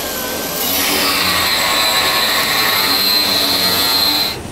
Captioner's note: repair Noise